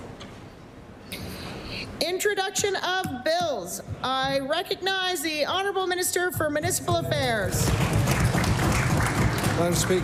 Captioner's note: applause